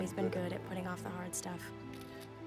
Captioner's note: shutter snaps